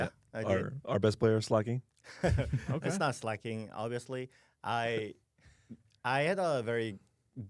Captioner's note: laughs